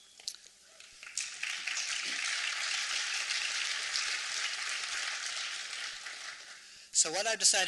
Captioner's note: applause